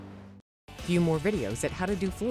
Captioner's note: voiceover